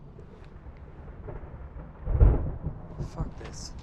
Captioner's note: thunder crackling